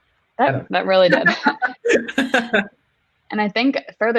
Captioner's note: laughing